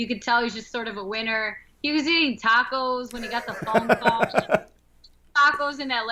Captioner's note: laughter